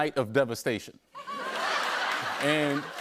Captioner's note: laughter